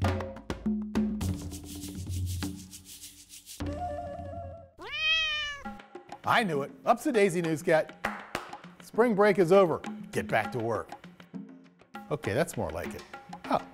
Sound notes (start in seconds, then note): 0.0 lively music; 4.8 cat meowing; 8.0 loud clapping